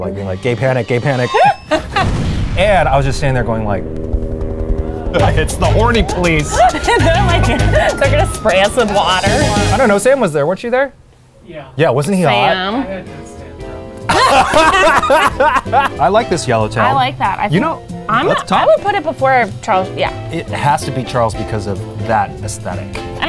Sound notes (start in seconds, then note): 1.3 laughs; 4.1 helicopter whirring; 6.3 sirens blaring; 6.4 both laughing; 14.0 both laughing